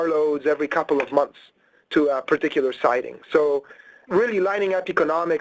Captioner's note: keyboard clicks